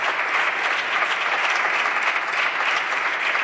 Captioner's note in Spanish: Aplausos